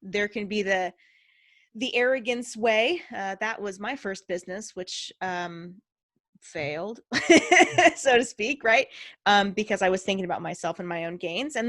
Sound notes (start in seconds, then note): 7.4 laughing